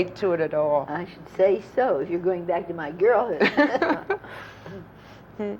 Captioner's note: laughter